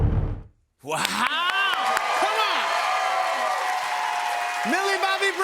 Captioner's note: cheers and applause